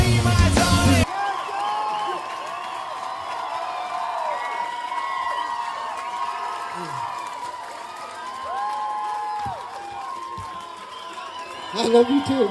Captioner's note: cheering and faint "I love you"s coming from the crowd